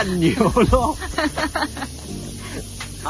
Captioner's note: hahaha